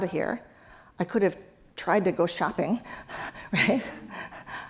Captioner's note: laugh